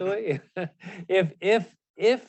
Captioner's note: chuckle